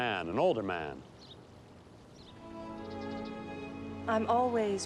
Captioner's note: birds chirping; romantic music plays